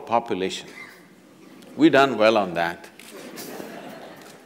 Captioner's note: laughter